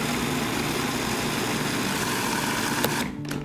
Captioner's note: Cuisinart humming